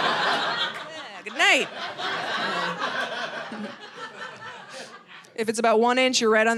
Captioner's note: audience laughing